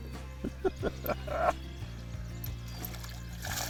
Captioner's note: laughter